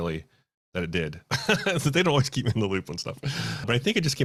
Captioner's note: laughs